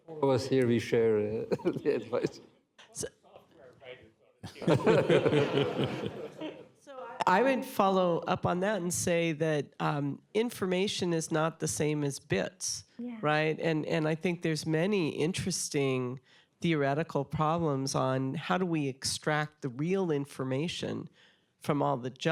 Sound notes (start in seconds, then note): 4.4 laughter